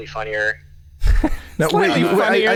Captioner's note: chuckles